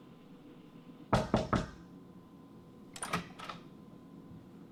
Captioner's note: knocking